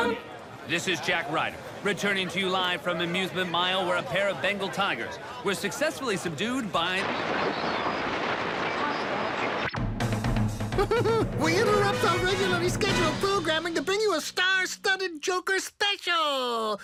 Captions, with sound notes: - This is Jack Ryder returning to you live from Amusement Mile where a pair of Bengal tigers were successfully subdued by-- [static] [jubilant music] - [laughs] We interrupt our regularly scheduled program to bring you a star-studded Joker special!